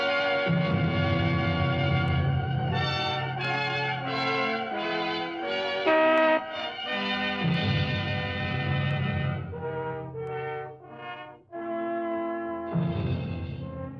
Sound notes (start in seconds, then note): 5.6 car horn